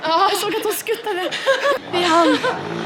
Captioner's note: laughing